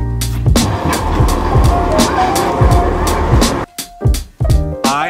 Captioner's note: train engine humming